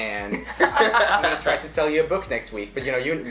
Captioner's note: laughing